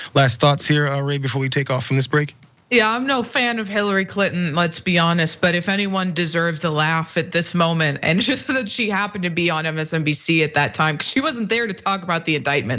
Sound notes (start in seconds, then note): 8.1 laugh